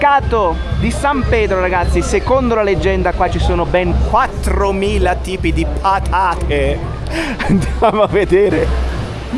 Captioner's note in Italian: risate